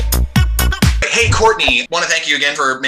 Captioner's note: upbeat music plays; quick transition sound